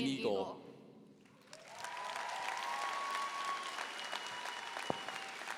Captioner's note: audience applauding